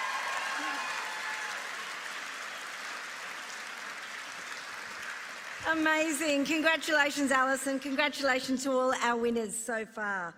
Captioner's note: applause